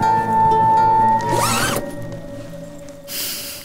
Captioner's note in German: Unbehagliche Musik; Reißverschlussratschen